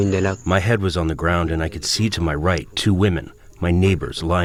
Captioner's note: through translator